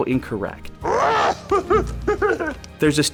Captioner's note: Yoda laughs